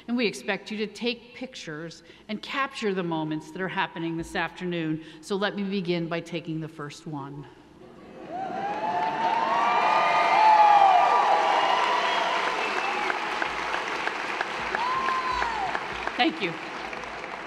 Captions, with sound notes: and we expect you to take pictures and capture the moments that are happening this afternoon. So let me begin by taking the first one. (audience cheering) (audience applauding) Thank you.